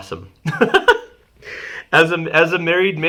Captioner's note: laughing